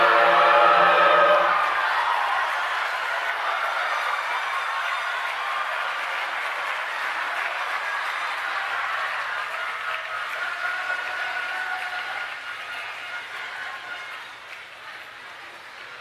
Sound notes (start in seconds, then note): 1.4 applause